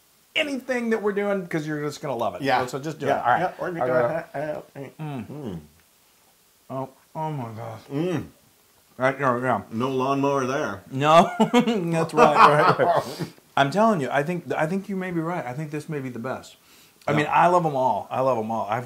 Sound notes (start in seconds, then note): 11.1 laugh